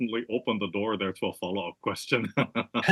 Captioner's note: laugh